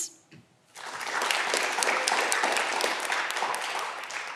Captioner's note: audience clapping